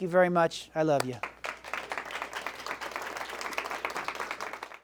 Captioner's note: audience clapping